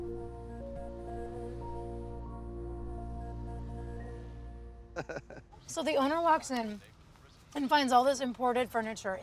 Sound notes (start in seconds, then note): 4.9 chuckling